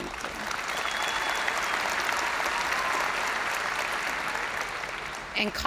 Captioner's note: crowd cheering; crowd applauding